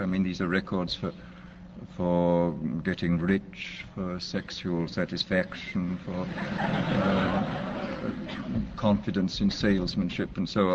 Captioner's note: crowd laughs